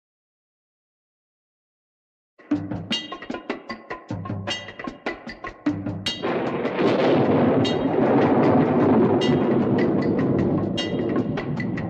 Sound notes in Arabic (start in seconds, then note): 2.6 موسيقى إيقاعية; 6.2 صوت الرعد